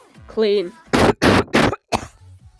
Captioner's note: coughing